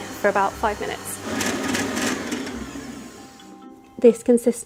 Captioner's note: mixer whirring